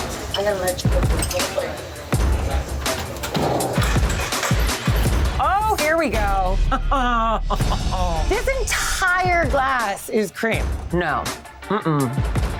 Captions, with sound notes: I'm going to let you go. [CHATTER] Oh, here we go. Oh, [LAUGHS] This entire glass is cream. No. Mm-hmm.